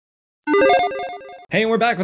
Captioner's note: graphics dinging